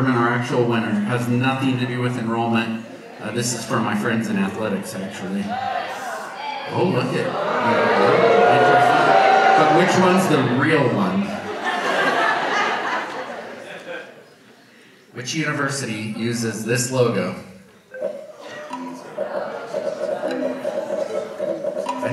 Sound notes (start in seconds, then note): 8.3 audience boos; 12.2 audience laughs; 17.9 quizzical music